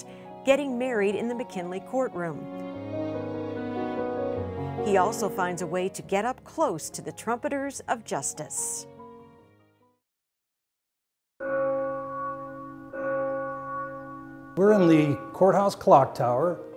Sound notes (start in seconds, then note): 2.8 piano keys tinkling; 11.4 bell gonging